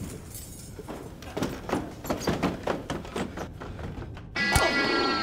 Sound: footsteps clopping; suspenseful music

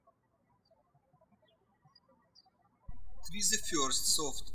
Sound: birds chirping

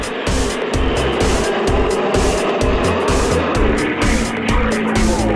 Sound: electronic music; sound of airplanes in the sky

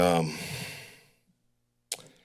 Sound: exhales; clicks tongue

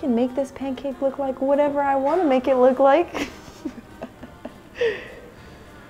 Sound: laughs

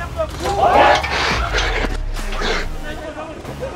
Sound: roar

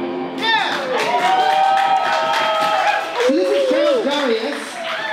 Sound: applause

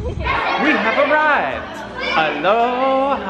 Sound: shouting in background

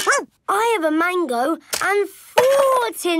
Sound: barks

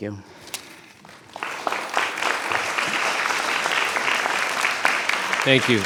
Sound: audience applauds

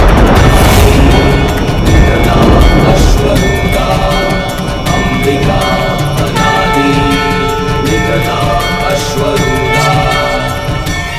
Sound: sanskrit shlok

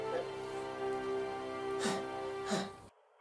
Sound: panting

